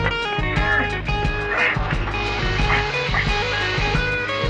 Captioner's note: j.d. grunting